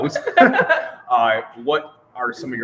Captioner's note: laughing